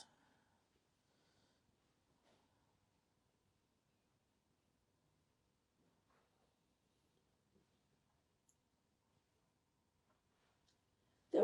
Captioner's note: pauses 10 seconds